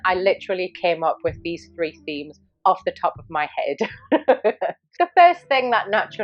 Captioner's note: laughs